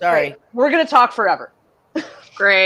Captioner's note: laughs